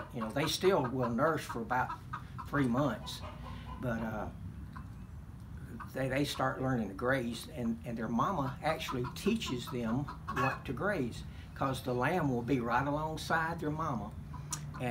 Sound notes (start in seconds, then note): none